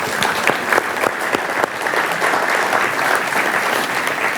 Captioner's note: audience applauds